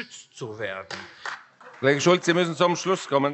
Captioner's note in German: Beifall